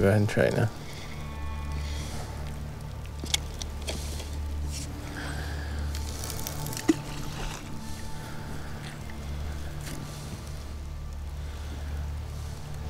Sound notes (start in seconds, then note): 2.0 somber music; 6.1 water splashes